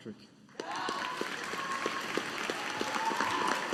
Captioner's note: audience applauding